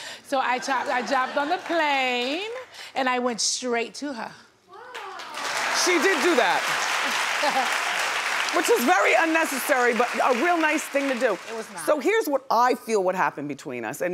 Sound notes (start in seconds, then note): 5.1 audience applauds